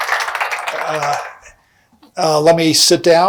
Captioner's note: applause